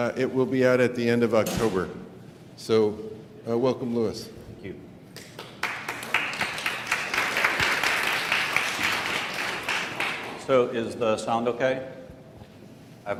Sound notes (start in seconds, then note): 5.2 applause